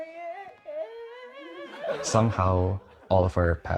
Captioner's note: everyone laughs